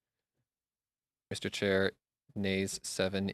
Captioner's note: speaking French